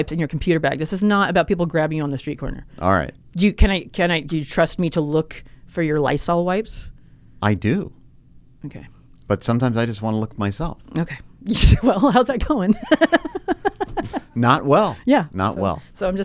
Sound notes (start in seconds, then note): 12.6 laughs